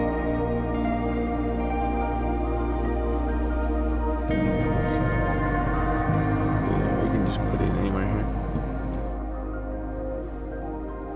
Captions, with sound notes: (birds chirping) - Yeah, we can just put it anywhere here.